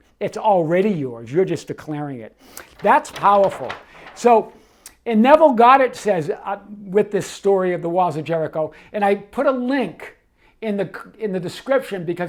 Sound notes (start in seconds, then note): 2.5 paper rustles